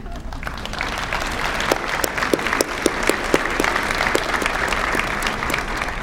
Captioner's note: applause